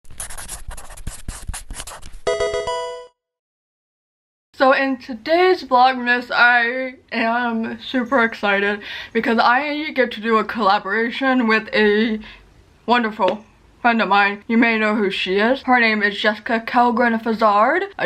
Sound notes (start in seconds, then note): 0.0 pencil writing; 2.2 Pokemon game sound